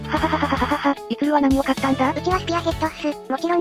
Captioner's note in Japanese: 笑い